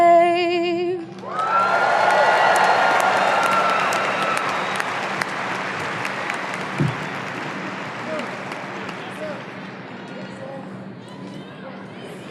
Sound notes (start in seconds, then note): 1.2 audience cheering